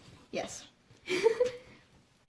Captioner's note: laughs